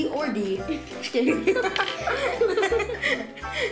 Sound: giggles

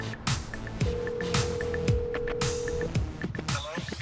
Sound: line ringing

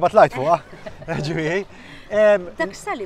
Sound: laugh

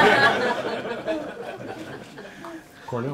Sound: laughter

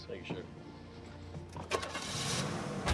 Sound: engine turns over

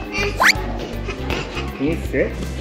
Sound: grunting

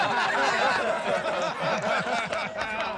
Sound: laughter

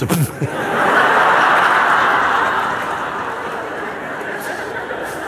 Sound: laughter

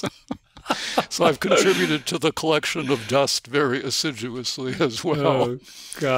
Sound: chuckle

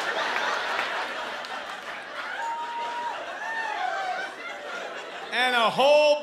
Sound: catcalls from audience

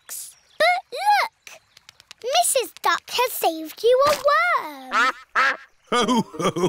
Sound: quacks

